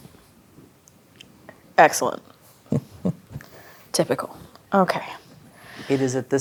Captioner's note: chuckles